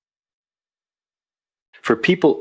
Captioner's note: pause